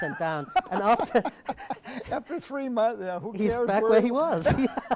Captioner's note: laugh